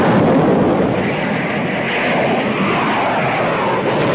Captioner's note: explosion booms; plane engines revving; guns firing